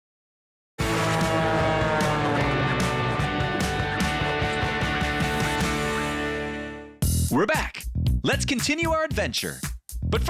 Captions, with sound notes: (upbeat music) (airplane whizzing) We're back! Let's continue our adventure.